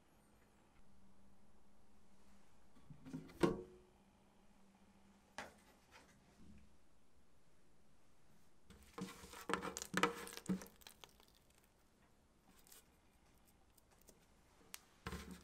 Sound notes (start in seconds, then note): 8.8 folding